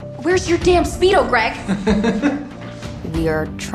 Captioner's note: chuckling